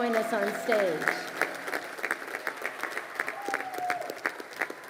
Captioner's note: crowd applauding